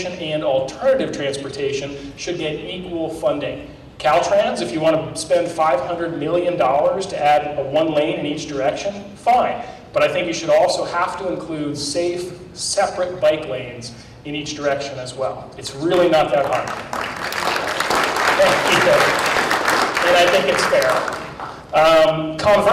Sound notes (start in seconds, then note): 16.4 applause